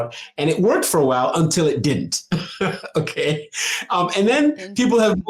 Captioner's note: laughs